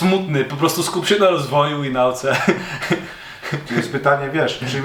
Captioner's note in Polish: śmiech